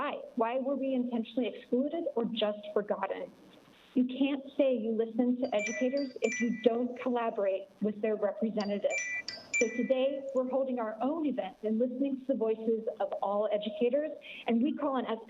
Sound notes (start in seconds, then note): 5.5 chime